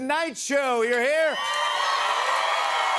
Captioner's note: cheers and applause